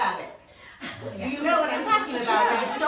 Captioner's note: laughing